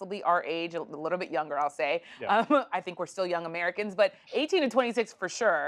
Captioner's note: laughs